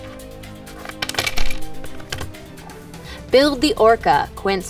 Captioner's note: pieces fall